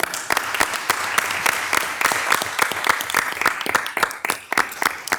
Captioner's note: participants applauding